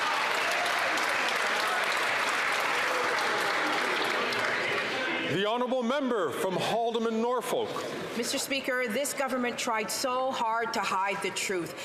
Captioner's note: some Applause